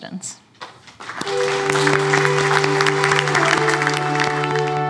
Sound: applause

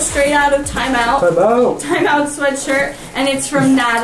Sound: laughs

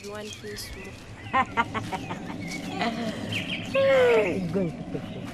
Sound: Rutore chuckles

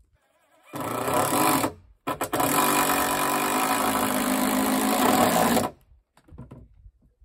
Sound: electric drill sound

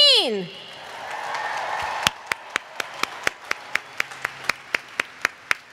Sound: applause

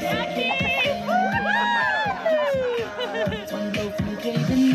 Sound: audience laughs; audience cheers

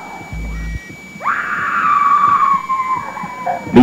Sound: screaming

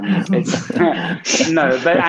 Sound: laughing

